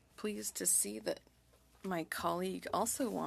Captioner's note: speaking french